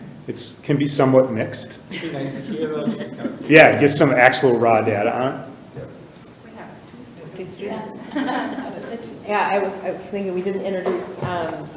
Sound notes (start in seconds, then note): 1.8 all laughing; 6.8 board members indistinctly chattering